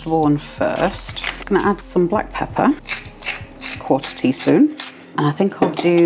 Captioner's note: pepper mill grinding